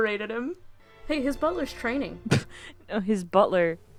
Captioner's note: laughing